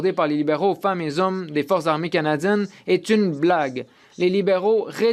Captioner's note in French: voix de l'interprète